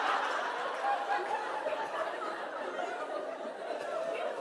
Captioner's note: laughter